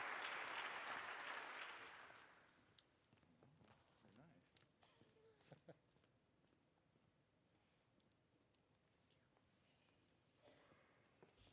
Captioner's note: applause